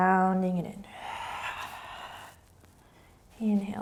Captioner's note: exhaling